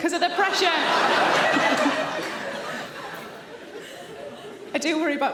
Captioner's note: audience laughing